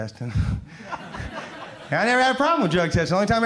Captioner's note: crowd laughs